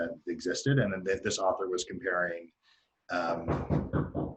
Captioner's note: door knocks